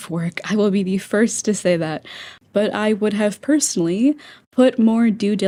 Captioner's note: inhale